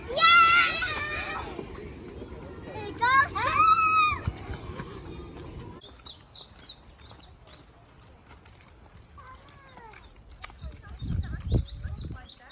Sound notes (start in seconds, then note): 7.4 birds chirping